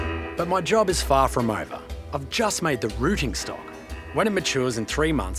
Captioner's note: none